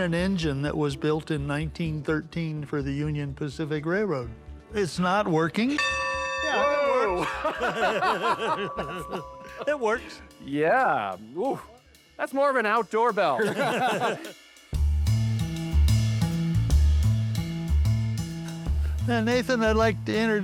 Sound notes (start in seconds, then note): 5.7 bell tolls; 7.1 laughter; 13.3 laughter; 14.8 upbeat music playing